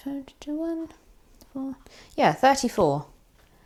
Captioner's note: does maths under breath